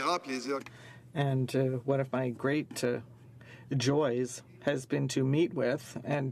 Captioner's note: speaking French